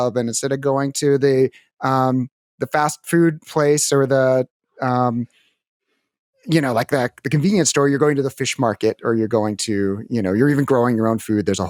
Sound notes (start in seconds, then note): none